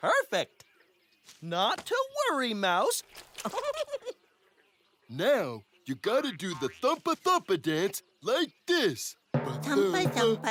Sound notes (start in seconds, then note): 3.4 giggles